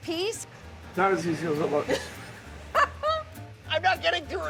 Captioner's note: laughs